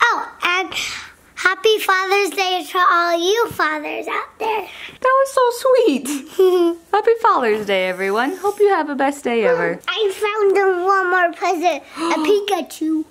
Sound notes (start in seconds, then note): 6.1 giggling